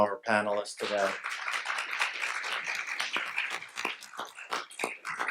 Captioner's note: audience applauds